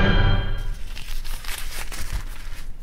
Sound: napkin crinkle

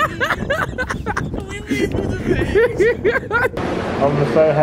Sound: laughing

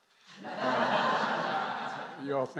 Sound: laughter

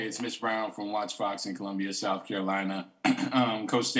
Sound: clears throat

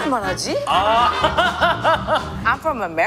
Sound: laughing

